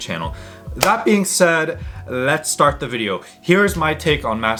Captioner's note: claps